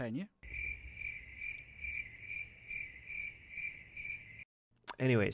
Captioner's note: crickets chirping